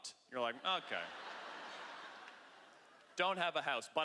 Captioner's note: laughter